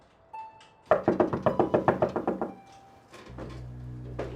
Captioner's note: urgent knocking